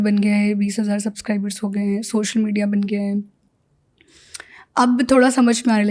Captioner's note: speaks in Hindi